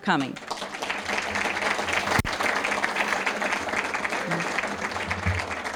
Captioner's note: applause